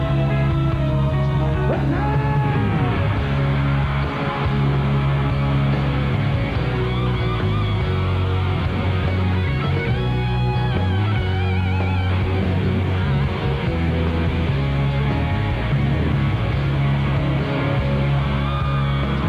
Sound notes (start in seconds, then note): 3.8 applause